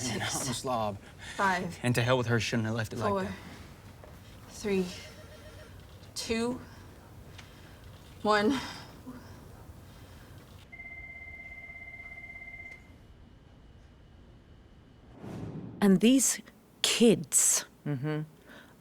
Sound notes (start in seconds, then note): 10.7 phone ringing; 15.1 air whooshing